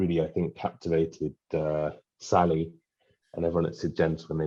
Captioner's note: none